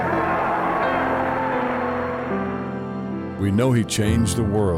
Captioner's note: crowd agreeing